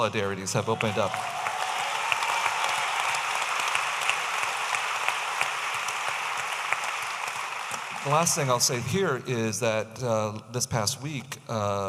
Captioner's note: audience applauding